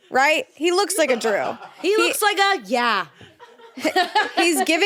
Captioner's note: laughs